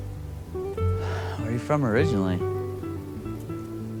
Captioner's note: sighs